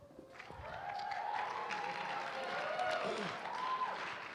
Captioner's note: applause